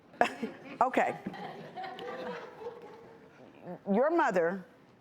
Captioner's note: laughs; audience chuckling